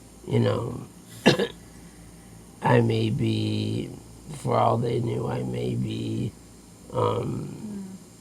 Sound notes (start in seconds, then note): 1.2 coughing